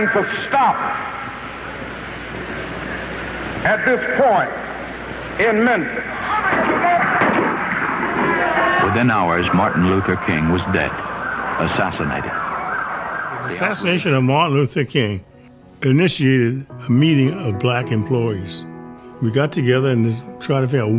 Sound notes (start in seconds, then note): 7.1 gunshots echo